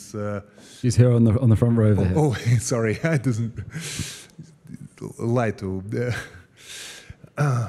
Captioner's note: laugh